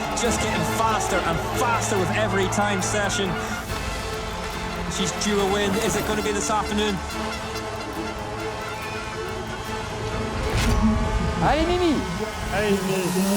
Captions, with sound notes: just getting faster and faster with every time session. She's due a win. Is it going to be this afternoon? [CROWD CHEERING]